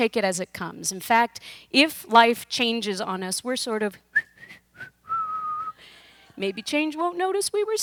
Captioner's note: whistles